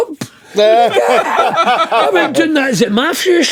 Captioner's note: laughing